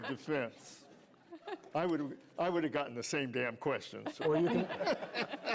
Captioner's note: laughter